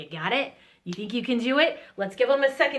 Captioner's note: snaps fingers